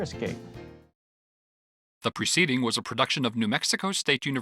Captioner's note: male Voice